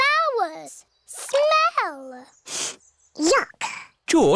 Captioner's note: sniffs